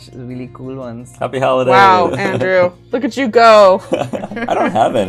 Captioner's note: laughter